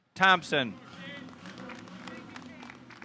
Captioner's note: audience applauding